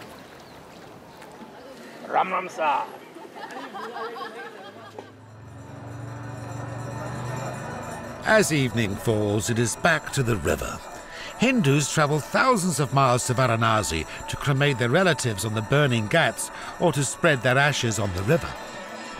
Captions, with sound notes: Ram Ram Saar! (Hypnotic prayer bells) As evening falls it is back to the river. Hindus travel thousands of miles to Varanasi to cremate their relatives on the burning ghats or to spread their ashes on the river.